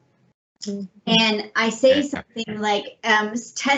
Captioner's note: murmuring